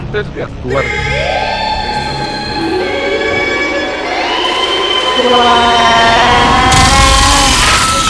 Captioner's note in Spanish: Cánticos Fuertes y quejídos; Público Gritando de Horror